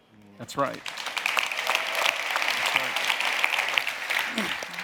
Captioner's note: audience applauding